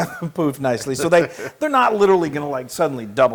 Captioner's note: laugh